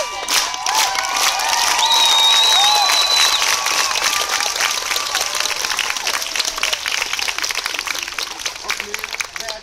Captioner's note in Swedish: Jubel och applåder